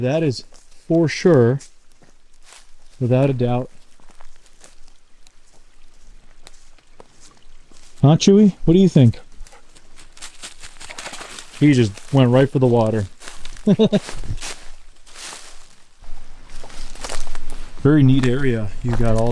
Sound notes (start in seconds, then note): 9.1 dog panting; 10.1 paws pattering; 13.6 chuckling